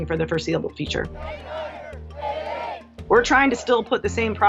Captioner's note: recruits yell